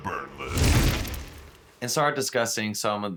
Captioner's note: heavy thud